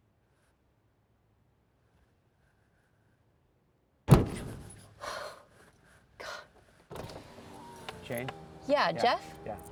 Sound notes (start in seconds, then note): 3.9 window bangs; 5.0 Jane gasps